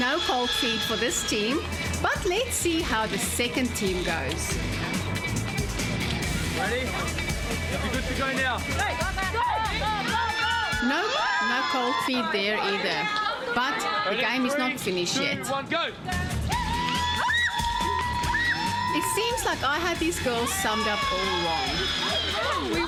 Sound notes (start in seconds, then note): 0.1 narrating; 9.3 screams in unison; 16.5 screams